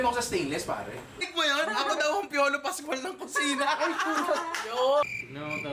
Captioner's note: laughter